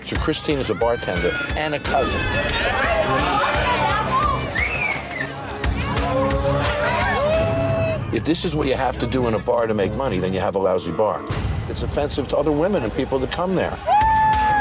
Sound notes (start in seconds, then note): 1.7 cheering